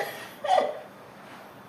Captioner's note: MONICA laughs